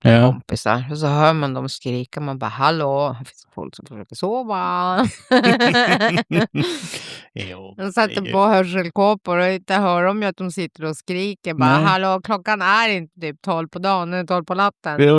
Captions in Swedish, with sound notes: Ja kompisar och så hör man de skrika man bara hallå här finns folk som försöker sova. [skratt] Jo, de sätter på hörselkåpor och inte hör de ju att de sitter och skriker bara hallå klockan är inte typ 12 på dagen är 12 på natten.